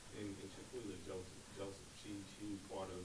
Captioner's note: voiceover